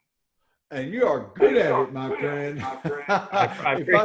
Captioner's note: laughing